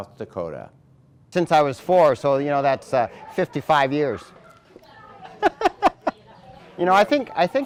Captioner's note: laughter